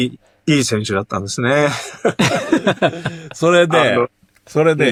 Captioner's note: laughs